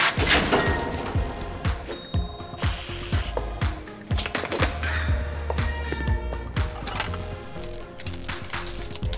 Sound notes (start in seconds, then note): 1.9 ding